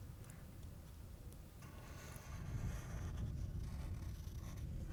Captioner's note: pencil scratching